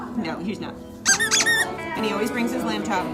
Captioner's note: squeaking